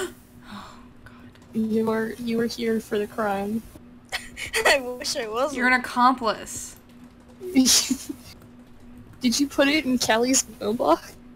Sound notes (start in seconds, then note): 4.1 nervous laughter; 7.5 laughs